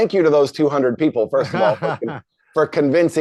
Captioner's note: chuckles